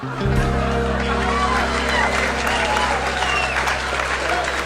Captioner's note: applause